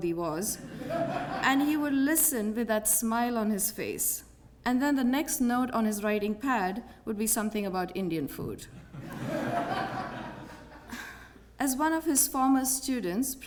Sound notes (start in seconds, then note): 0.6 laugh; 8.8 laugh